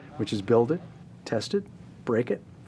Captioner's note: none